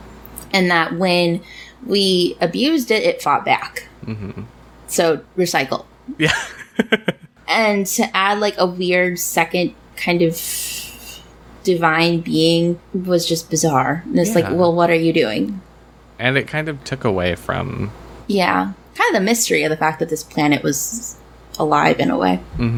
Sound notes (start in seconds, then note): 6.2 laughs